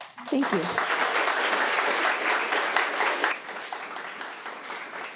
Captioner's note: audience applauding